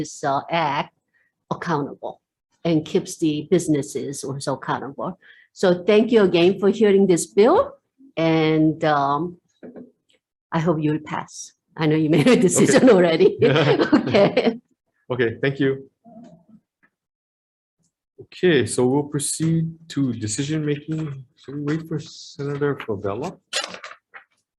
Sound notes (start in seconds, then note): 13.3 laughs; 13.3 chuckles